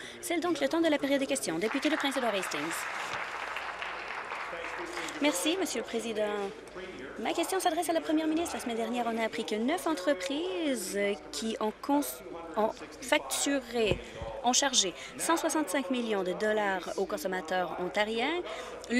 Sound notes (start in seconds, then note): 5.4 applause